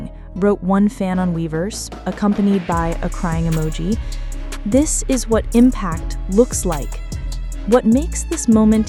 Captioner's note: Impact